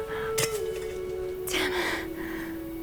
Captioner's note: lamp thuds